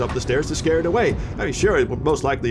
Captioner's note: none